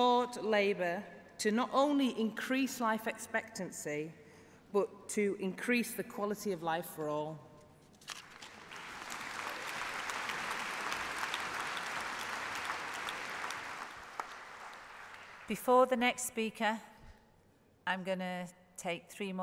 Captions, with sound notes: expectancy has stalled. It make s sense that the NHS should focus on the treatment and also prevention of ill health. Please support Labour to not only increase life expectancy but to increase the quality of life for all. (applause)